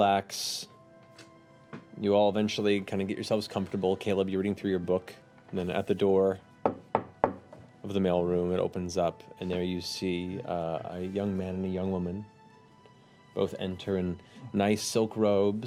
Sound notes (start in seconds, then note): 6.6 knocking